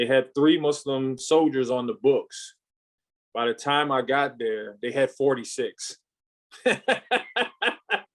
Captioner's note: laughs